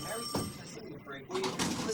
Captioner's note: phone ringing